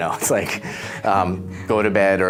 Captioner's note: laughs